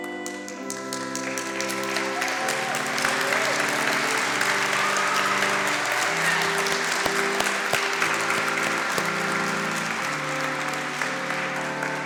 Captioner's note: applause